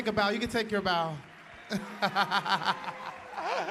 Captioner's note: applause